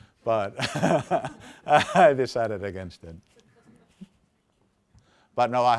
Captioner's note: laughs